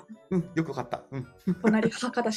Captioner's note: laugh